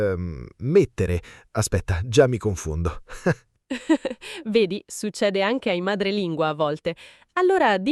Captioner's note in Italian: risate